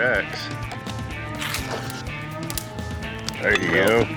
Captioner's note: rips shirt